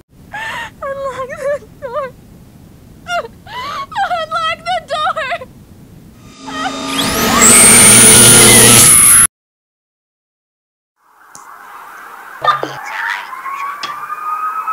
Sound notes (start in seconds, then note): 3.4 crying; 6.2 high Voltage Electric Sounds; 6.4 screaming; 11.6 ambient Police Sirens